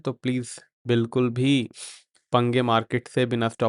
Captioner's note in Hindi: नाक से की जाने वाली आवाज़